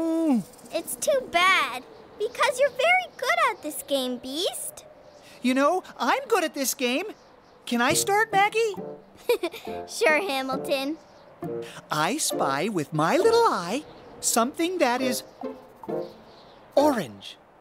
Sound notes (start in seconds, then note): 9.2 giggle